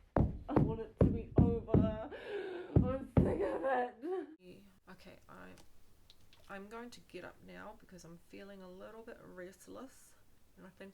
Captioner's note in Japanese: 足が地面を踏み鳴らしている音